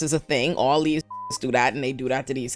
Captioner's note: beep